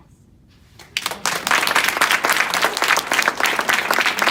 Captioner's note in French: Applaudissements